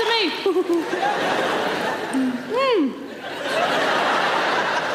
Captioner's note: chuckling; audience laughing